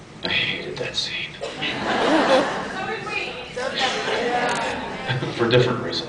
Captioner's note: laughs